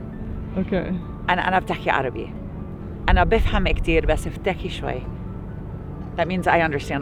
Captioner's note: speaking Arabic